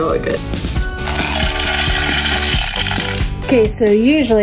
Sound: clanking

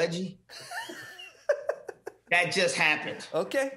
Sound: laughing

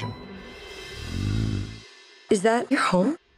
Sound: yeti growls

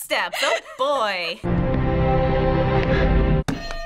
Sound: chuckles; orchestral music; person gasps; hitting bell

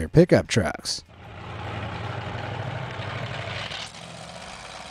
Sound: engine revving

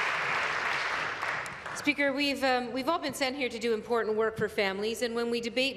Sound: applause

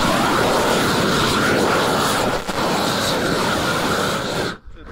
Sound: air whooshes against plastic

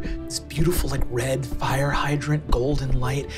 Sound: none

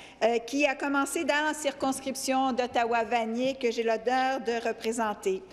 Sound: speaking French

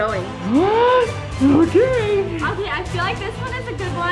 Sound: gasping

